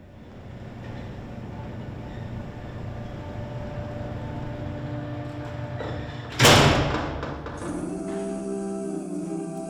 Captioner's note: door closing